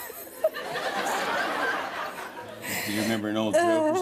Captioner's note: laughter